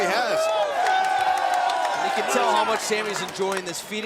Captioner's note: crowd cheering